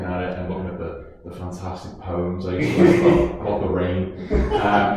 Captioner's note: laughing